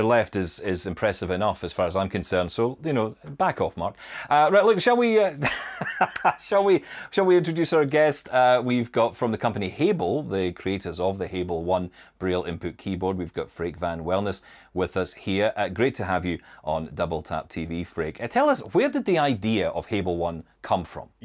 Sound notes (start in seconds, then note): 5.5 laughing